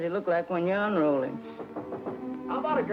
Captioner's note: door knocking